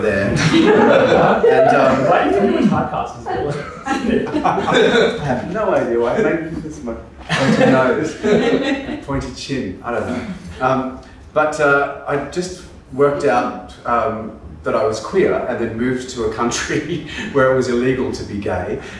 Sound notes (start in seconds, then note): 3.1 audience laughs; 4.8 laughs